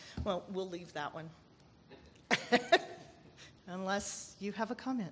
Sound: laughs

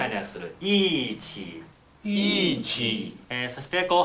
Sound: speaking Chinese

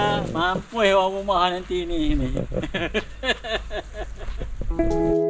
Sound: giggles

